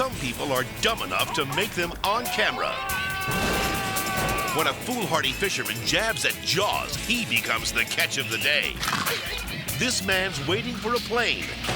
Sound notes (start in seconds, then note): 2.9 man yelling; 8.6 shark munches